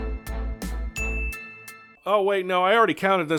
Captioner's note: royalty-free music continues; ding